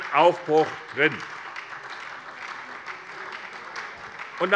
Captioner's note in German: Beifall SPD